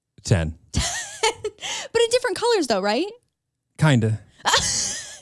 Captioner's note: laughs